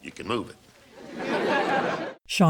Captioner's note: audience laughter